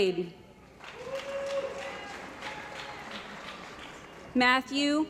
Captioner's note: cheering & Applause